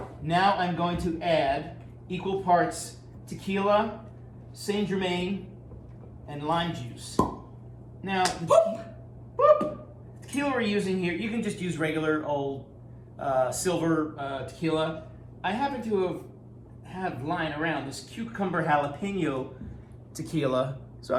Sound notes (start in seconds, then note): 7.2 popping noise